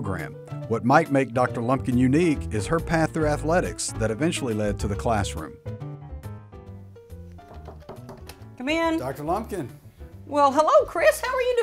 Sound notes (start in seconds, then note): 7.4 door knocking